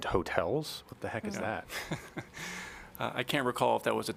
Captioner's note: laughter